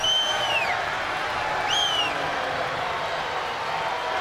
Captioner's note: crowd boos